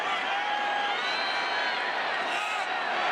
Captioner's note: crowd cheering